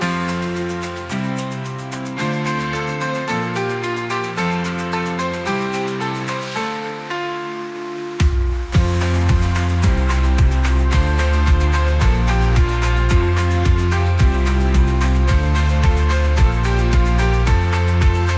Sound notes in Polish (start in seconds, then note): 8.8 Aplauz